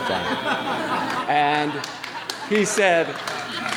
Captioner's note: laughing